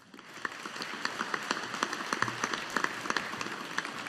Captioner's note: audience applauding